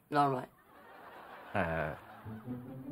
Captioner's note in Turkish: Gülme efekti